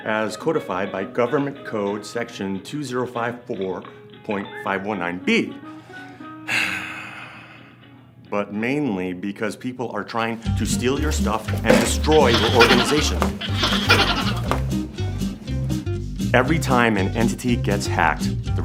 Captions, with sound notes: as codified by Government Code Section 2054.519 B. (sighing) But mainly because people are trying to steal your stuff and destroy your organization. (cartoonish giggling) (mischievous music) Every time an entity gets hacked,